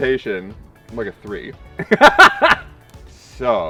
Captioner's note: laughs